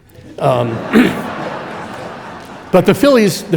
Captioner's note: audience laughing